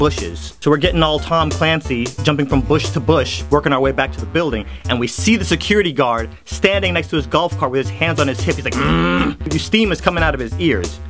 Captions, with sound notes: So we're getting all Tom Clancey, jumping from bush to bush working our way back to the building and we see the security guard standing next to his golf cart with his hand on his hip, he's like: *grumbles* Steam is coming out of his ears